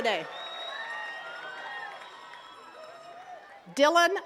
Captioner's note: attendees cheering and clapping